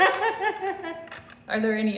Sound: unhinged laughter

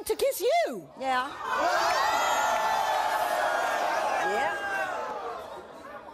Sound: audience boos and yells

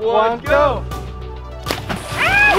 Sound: splash; scream

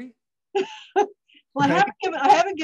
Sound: laughs

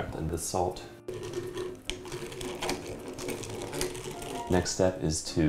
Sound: mixer clicks

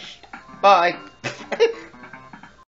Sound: laughs

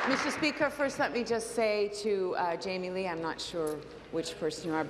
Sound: applause

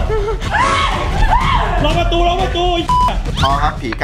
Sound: screams; pat; radio

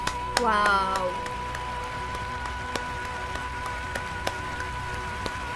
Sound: applause

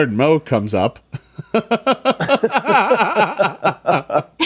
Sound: laughing

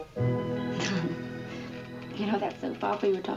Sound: chuckles

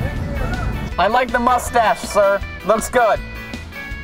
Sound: voiceover

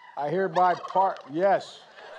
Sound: turkey gobbles; laughter

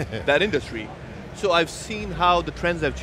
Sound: chuckles

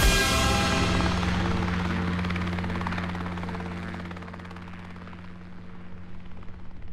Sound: helicopter blades whirring in distance

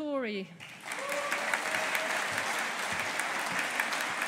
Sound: audience applauding

